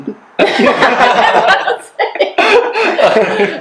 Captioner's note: laughter